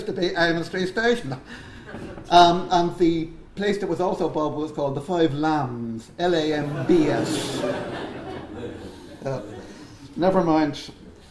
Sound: laughter

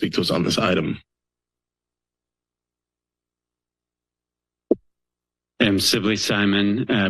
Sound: silence

